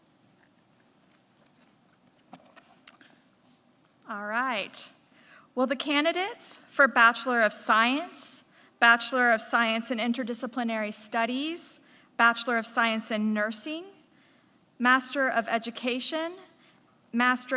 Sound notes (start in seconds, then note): none